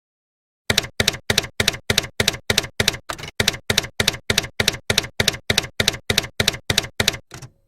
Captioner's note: typewriter keys clacking